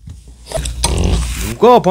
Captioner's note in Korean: 방구소리